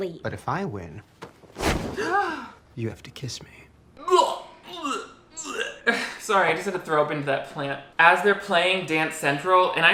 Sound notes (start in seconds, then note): 2.0 fiance gasps; 4.0 heaves